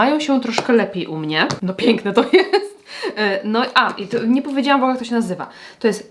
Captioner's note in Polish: śmiech